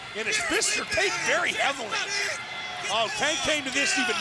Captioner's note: crowd cheering